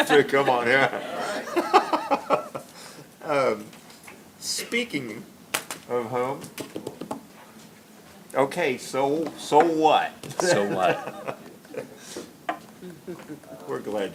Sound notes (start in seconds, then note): 10.3 laughs